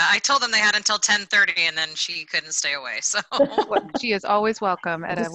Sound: laughs

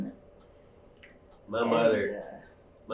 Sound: laughs

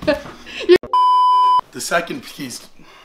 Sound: beeping

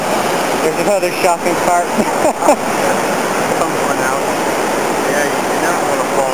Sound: chuckles

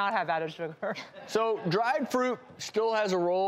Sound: laughter

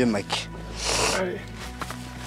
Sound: sniffing

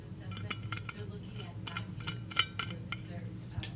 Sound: metal clanking

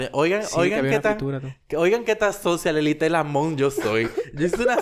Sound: laughs

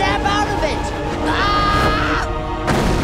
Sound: screaming

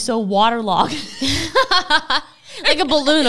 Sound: laugh

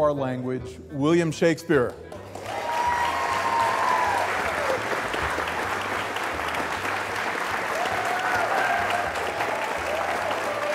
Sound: applause

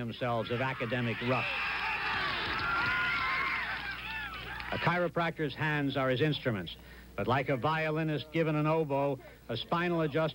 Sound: cheers

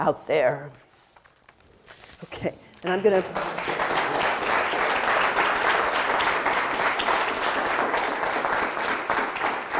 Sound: audience applause

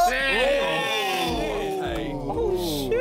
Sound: all cheering

